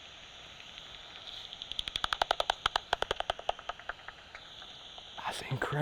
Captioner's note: rapid clicking